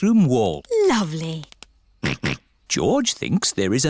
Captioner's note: snorts